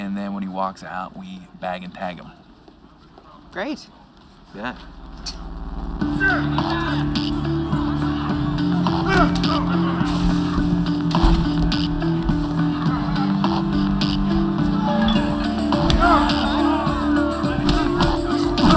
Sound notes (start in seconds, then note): 6.0 grunting, cheering